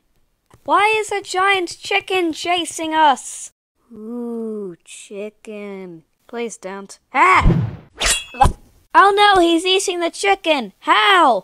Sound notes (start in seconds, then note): 8.0 shing